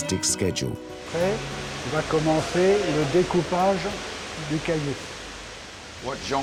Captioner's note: speaks french